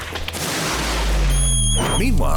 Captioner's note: table creaking; monkey screeching